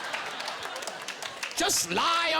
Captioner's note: laughing